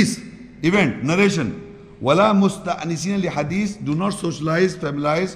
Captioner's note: Arabic